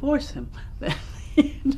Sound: laughs

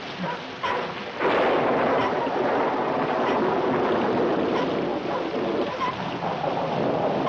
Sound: rain pouring heavily; thunderstorm intensifying

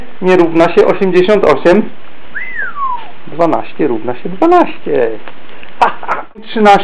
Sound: whistle of delight

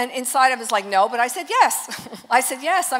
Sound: chuckles

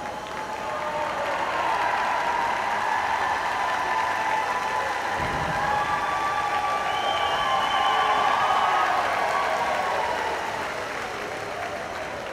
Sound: cheering; applause

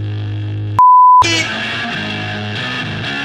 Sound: beep; angry rock music

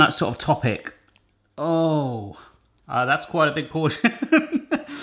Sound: laughs

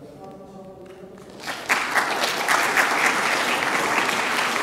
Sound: audience applause

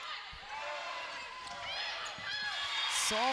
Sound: players yelling

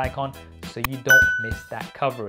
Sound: upbeat instrumental music; bell dinging

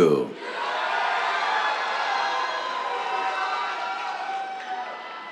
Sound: cheers, applause

